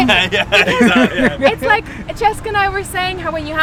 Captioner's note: laughs